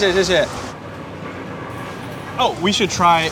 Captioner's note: engine roaring